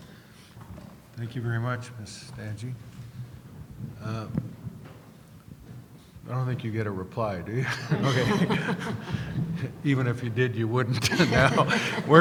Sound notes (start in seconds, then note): 1.3 voiceover; 7.6 laughing